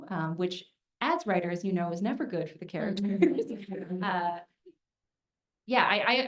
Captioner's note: laughs